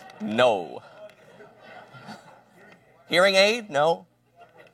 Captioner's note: laughter